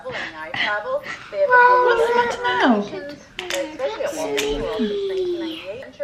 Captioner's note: crying